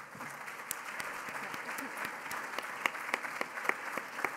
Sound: applause

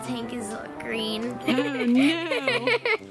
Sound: laughs

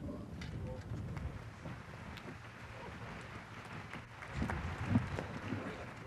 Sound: applause

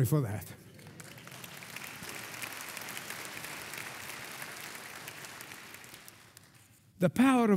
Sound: congregation applauding

